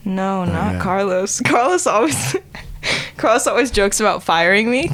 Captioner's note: laughing